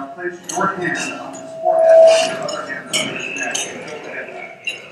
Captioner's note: microphone feedback